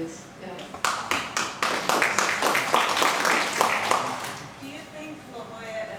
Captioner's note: audience applauding